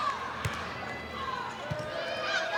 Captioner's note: ball thumping; players shouting indistinctly